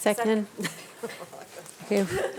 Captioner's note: board members laughing